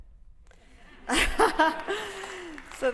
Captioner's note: laughter